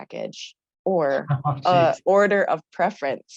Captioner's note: laughs